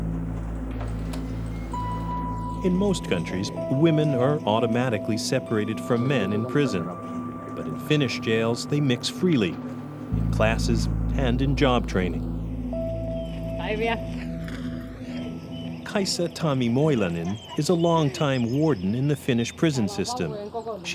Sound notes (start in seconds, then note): 13.8 speaking foreign language